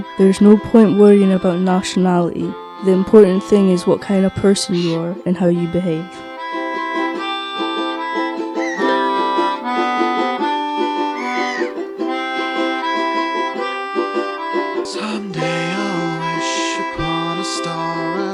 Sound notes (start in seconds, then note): 10.9 seagull squawk